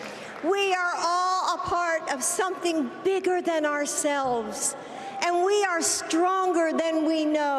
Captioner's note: applause